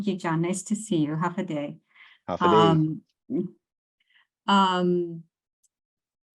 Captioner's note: both speak in foreign language